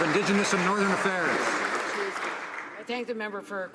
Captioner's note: some Applause